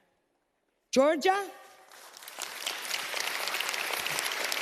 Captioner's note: audience claps